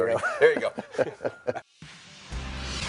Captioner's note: chuckling